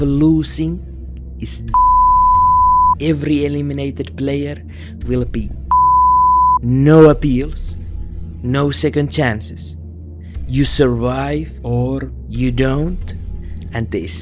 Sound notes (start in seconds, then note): 1.7 beep; 5.7 beep